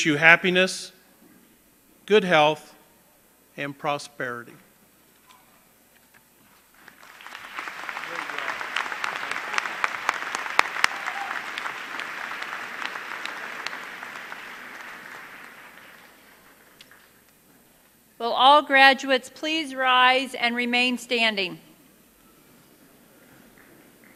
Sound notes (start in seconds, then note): 11.0 applause